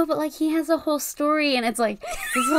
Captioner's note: laughs